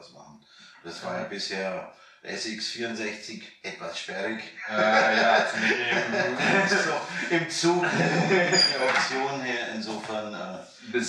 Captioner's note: laughing